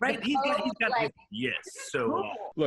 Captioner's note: both laugh